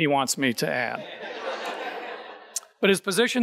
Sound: audience laughing

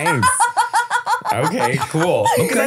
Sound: laughing

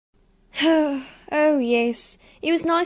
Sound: sighs

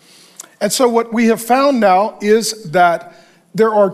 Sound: none

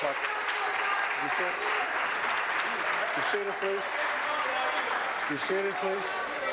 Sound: applause

